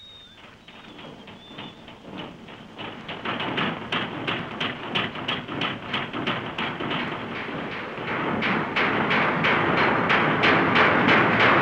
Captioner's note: industrial noises